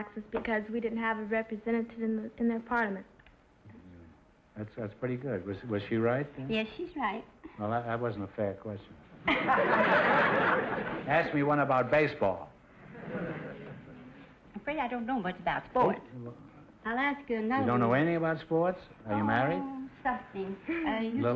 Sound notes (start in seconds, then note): 9.2 laughing; 9.2 audience laughter